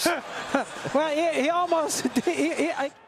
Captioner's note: laughs